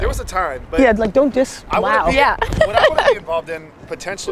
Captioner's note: laughing